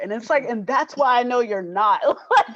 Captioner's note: laughs